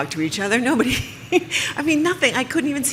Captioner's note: laughs